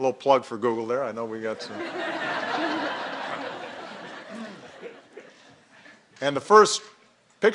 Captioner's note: laughter